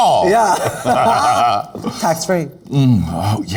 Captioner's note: both laughing